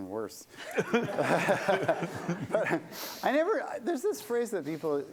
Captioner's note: laughter